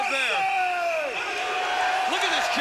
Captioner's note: crowd chanting "USA!"